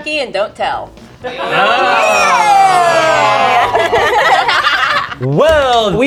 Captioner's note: group laughs